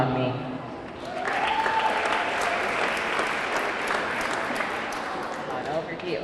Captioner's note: audience clapping; audience cheering